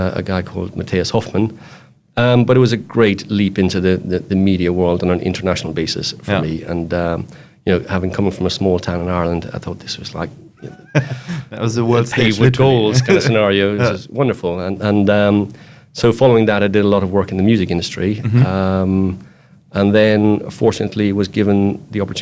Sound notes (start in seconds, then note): 10.5 laughs